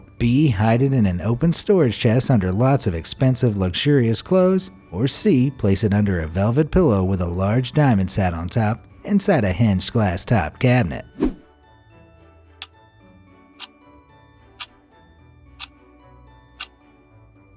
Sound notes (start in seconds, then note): 12.3 clock ticking